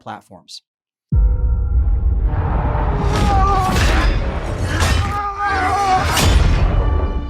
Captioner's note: dramatic music; soldiers grunting